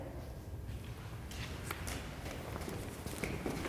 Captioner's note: feet clomping